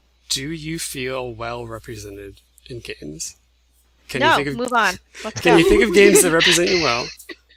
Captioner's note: laughs